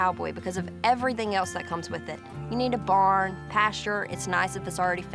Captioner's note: none